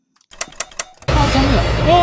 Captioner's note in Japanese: 効果音